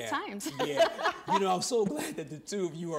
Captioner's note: laughing